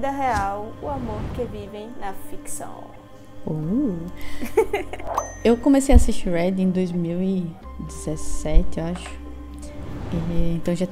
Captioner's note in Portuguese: uhhh risos